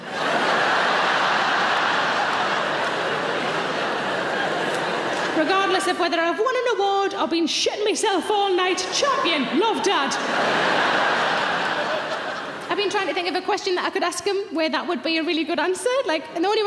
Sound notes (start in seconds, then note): 0.0 audience laughing; 9.8 audience laughing